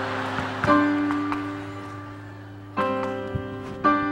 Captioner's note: audience laughing; Don clapping hands; clapping hands